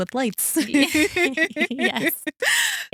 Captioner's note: both Laughing